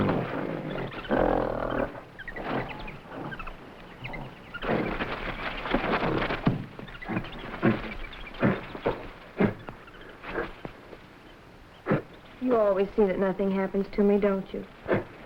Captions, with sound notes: (plants rustling) (gorilla chattering) - You always see that nothing happens to me, don't you?